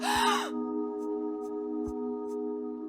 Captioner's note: screaming